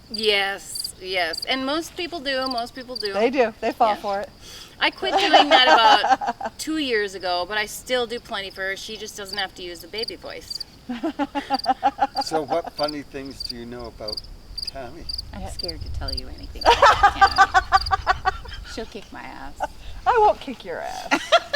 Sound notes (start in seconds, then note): 10.8 people laughing; 18.1 people laughing